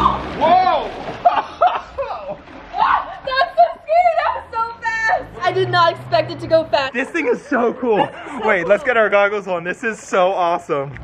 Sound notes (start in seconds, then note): 2.2 water splashing; 3.0 laughing